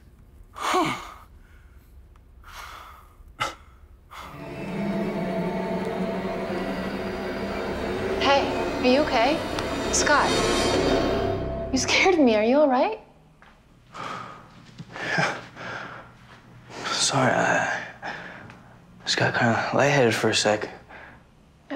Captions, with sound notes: (Scott exhales) (teammate scoffs) (ominous music) - Hey, are you okay? Scott? You scared of me. Are you all right? - Yeah. Sorry, I just got kinda lightheaded for a sec.